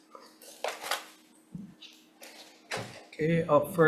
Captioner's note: object thuds